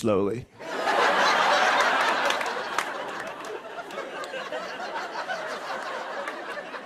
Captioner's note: laughter